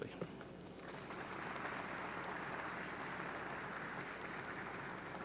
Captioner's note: audience clapping